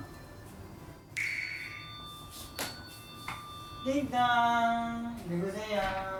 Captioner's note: then the doorbell rings suddenly